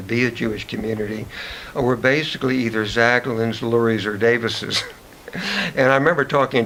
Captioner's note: chuckles